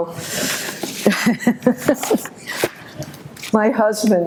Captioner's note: laughs